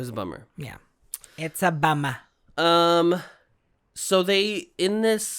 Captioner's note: boston accent